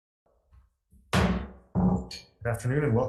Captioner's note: gavel bangs